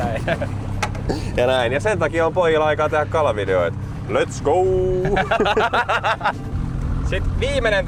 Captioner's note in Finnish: naurua